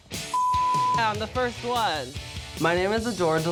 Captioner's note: beep